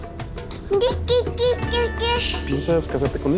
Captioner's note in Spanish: carlitos balbucea